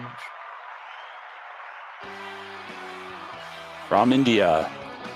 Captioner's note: applause